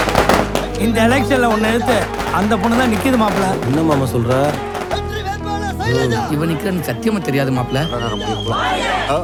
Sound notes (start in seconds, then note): 0.5 raised voices